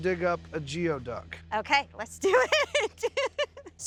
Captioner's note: laughing